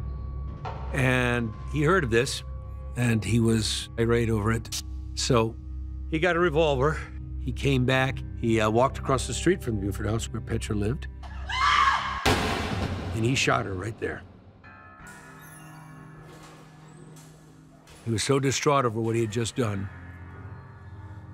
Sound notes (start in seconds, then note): 11.3 woman screams; 12.3 gun fires; 14.1 somber music